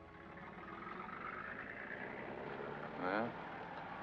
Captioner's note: vehicle rumbles down street